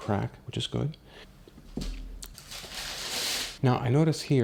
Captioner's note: more crinkly noises